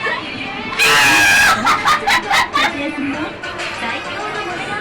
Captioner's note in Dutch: lachen